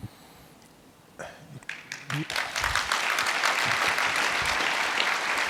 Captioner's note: audience clapping